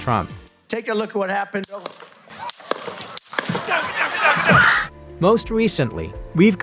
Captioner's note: pop; screams; more pops